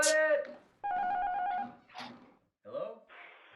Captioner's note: apartment buzzer